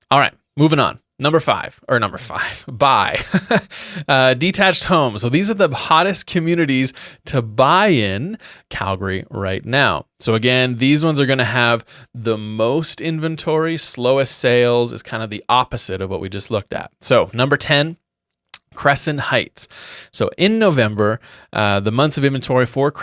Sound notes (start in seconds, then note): 3.1 laughing loudly